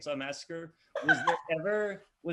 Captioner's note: laughs loudly